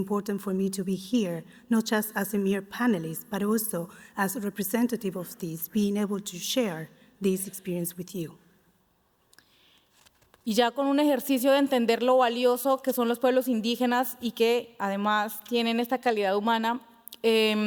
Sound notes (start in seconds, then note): 12.8 speaking Spanish